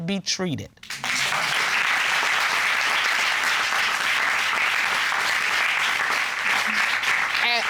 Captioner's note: applause